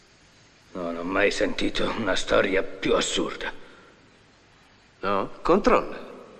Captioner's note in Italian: schiarire la voce